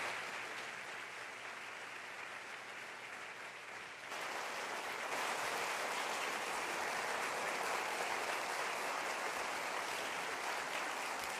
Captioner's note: applause